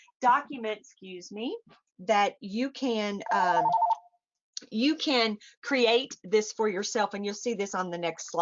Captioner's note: phone rings